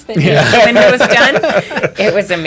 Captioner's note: laughter